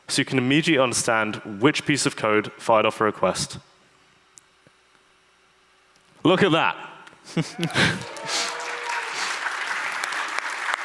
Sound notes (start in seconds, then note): 7.5 audience applauds